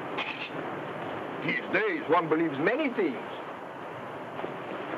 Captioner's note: laughs